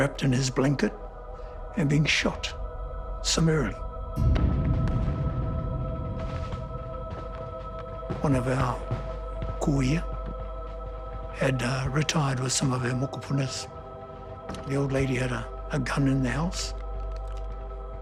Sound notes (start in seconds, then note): 4.0 tense music; 5.1 guns firing